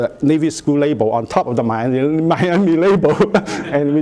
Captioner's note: laughs